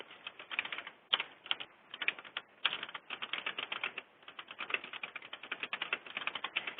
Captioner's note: typing